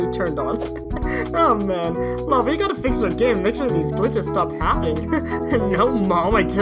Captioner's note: nervous laugh; music speeds up